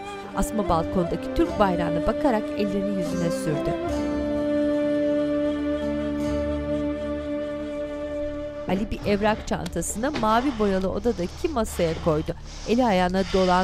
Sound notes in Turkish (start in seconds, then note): 10.3 Nefes sesi